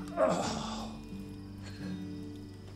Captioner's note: Sam groans